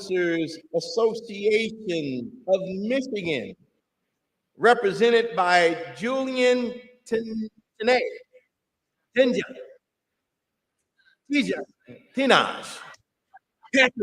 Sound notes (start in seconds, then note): none